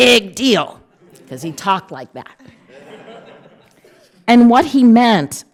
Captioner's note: audience laughing